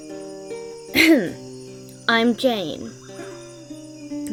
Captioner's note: coughs